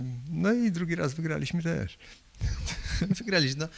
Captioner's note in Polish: śmiech